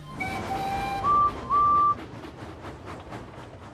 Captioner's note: rebecca and edward whistle